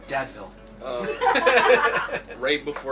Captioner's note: laugh